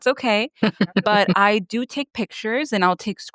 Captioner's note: chuckles